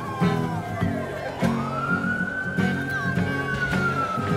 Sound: police siren wailing; dramatic music playing

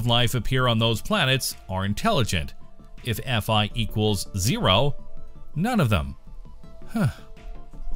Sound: sigh!

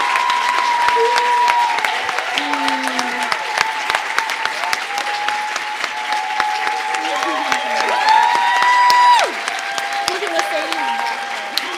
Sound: cheers and applause

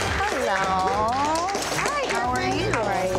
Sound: audience clapping

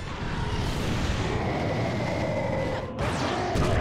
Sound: Bowser roaring; roaring

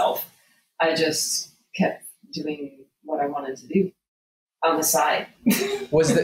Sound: laughs

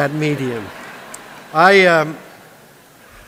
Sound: laughter

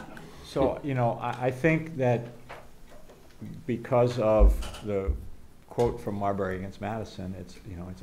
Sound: background laughter

